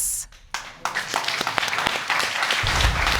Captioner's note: all clapping